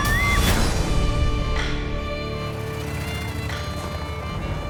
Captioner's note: screaming